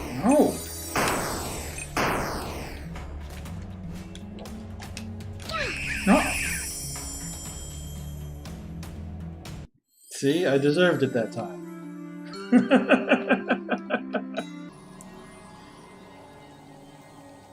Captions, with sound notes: No! No—! See, I deserved it that time. [laughs]